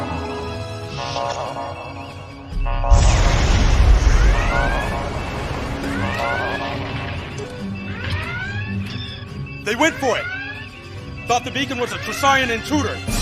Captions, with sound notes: [Explosion] - They went for it! Thought the beacon was a Tressaurian intruder!